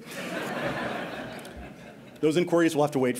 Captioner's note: laughter